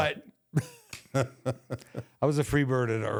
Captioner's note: The Undertaker laughs